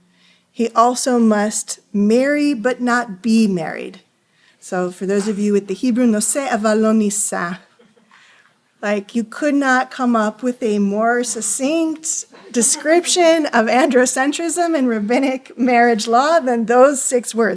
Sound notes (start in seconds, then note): 7.5 non-english